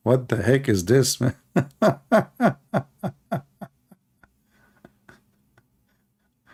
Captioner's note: Ketawa